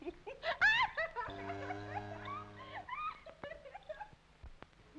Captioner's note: Audrey laughing; cow mooing